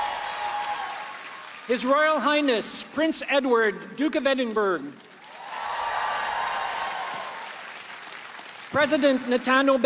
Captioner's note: applause